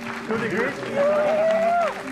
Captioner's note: crowd cheering